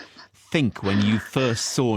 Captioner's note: crying